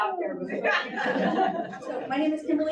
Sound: audience laughs

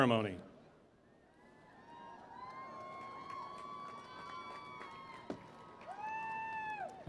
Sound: cheering

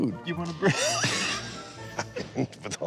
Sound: laughs

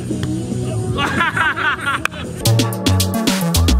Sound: laughing

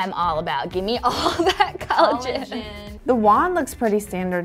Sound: laughing

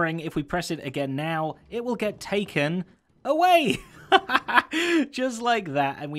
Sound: laughing

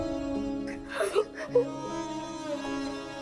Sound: sobbing

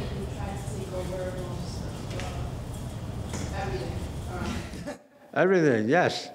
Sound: laughing

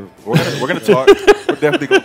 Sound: laughs

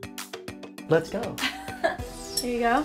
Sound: giggling

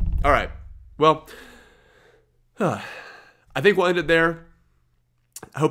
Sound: sighs

